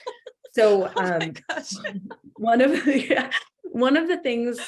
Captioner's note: laughs